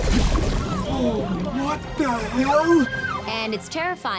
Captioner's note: muffled screams